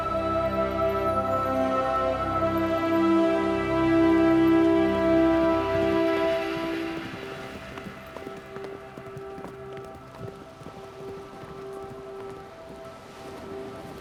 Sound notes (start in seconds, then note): 8.2 horses galloping